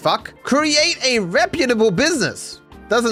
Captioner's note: mockingly